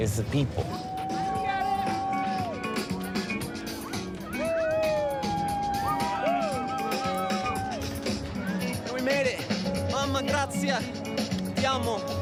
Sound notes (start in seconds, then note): 1.4 cheering; 1.4 upbeat music